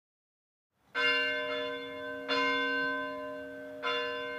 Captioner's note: bell ringing